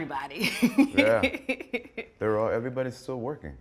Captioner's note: laughs